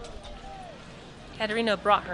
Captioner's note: more screams and breaking bones and thuds of billy club against flesh